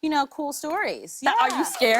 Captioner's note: cheers and applause